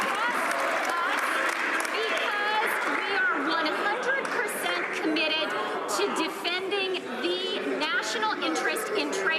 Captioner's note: some Applause